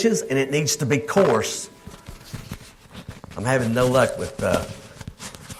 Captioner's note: microphone cracking